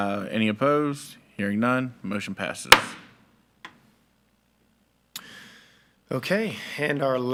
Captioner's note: gavel thudding